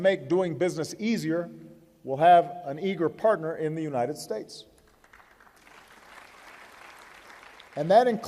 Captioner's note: applause